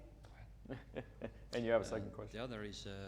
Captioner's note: laughing